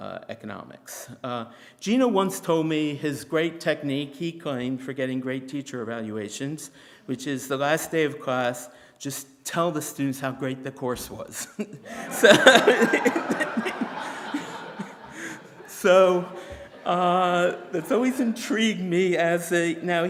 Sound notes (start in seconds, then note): 11.5 presenter laughing